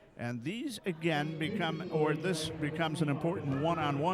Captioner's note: none